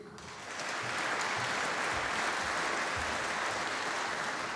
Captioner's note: applause